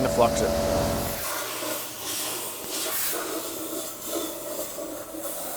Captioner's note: air hose whooshing